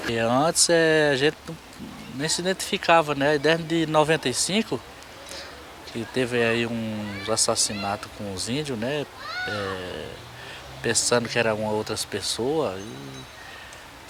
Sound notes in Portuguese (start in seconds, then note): 8.9 Vozes de crianças brincando na rua